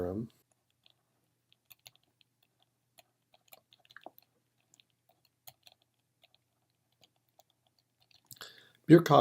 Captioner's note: typing